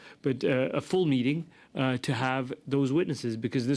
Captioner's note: speaking French